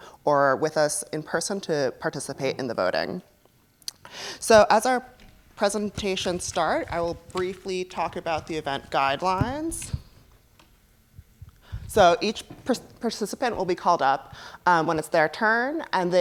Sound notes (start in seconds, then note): none